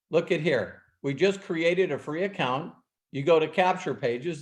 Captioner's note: none